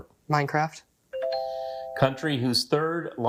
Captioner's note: buzzer chimes